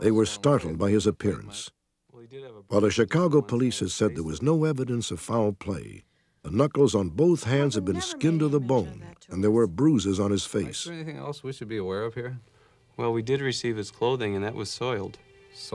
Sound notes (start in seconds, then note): none